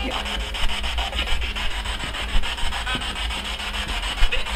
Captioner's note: static buzzing